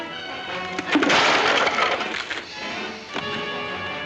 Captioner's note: crashing sound; suspenseful music; sounds of scuffling